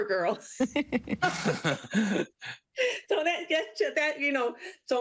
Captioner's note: laughter